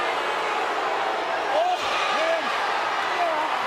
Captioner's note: crowd booing